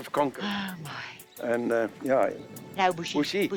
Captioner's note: sighs